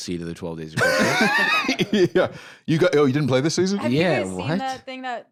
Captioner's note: laughs